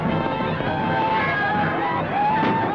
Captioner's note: screaming